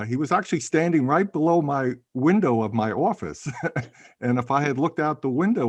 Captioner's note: chuckling